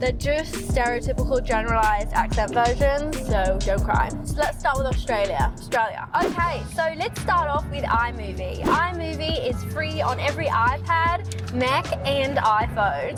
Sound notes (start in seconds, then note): 6.2 whoosh